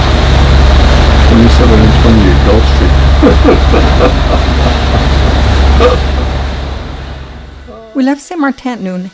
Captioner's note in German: lacht